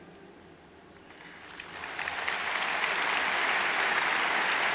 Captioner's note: crowd applauds